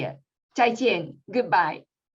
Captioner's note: non-english speech